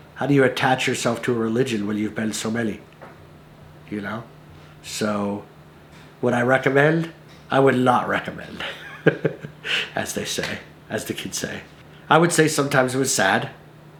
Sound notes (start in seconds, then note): 8.5 laughs